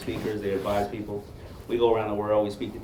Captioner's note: none